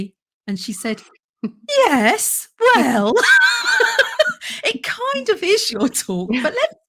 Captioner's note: laughs